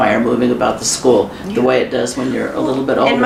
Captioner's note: none